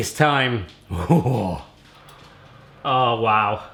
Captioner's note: laughing